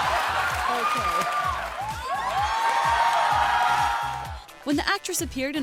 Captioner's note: crowd cheers